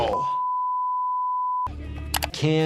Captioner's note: long beep